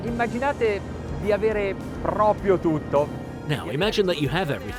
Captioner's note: speaking in foreign language